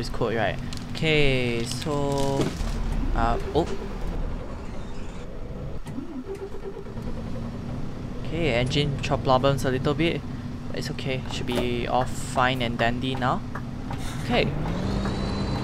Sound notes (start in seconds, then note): 3.0 engine dying; 3.0 vrvrvr VRo0m